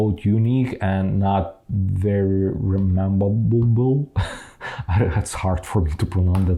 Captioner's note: laughs